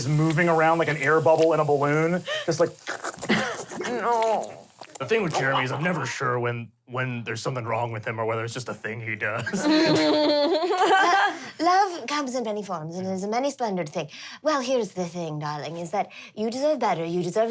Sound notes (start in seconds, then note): 3.7 churning; 9.5 laughs